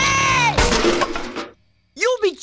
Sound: thud

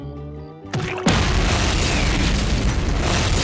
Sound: explosion

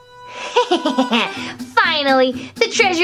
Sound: Romeo gasping; Romeo whooshing; Romeo laughing

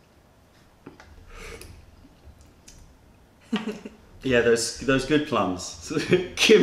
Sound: sips tea

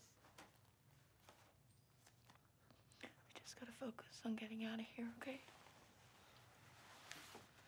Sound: none

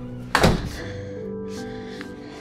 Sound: door clicks; heavy breathing

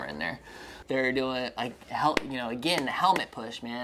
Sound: stutters

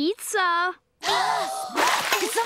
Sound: gasping

